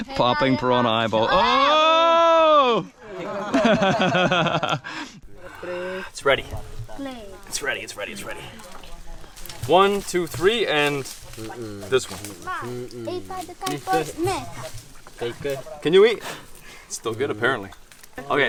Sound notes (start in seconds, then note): 2.8 group laughing; 13.4 speaking in foreign language